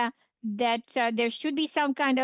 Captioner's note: speaking French